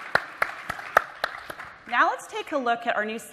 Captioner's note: applause